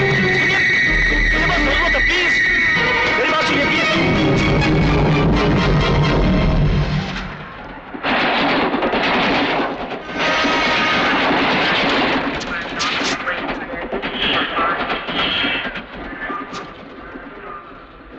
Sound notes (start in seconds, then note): 14.1 railway announcement